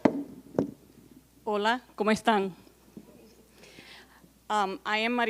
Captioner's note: speaking in Spanish